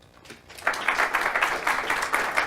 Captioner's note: applause